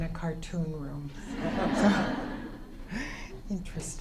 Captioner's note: audience laughter